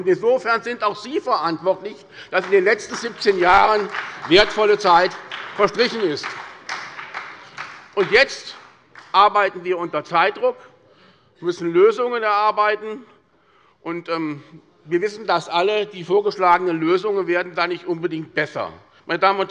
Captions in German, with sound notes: Insofern sind auch Sie dafür verantwortlich, dass in den letzten 17 Jahren wertvolle Zeit verstrichen ist. (Beifall bei der SPD) Jetzt arbeiten wir unter Zeitdruck und müssen Lösungen finden. Wir alle wissen, die vorgeschlagenen Lösungen werden dadurch nicht unbedingt besser.